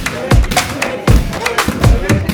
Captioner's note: men chattering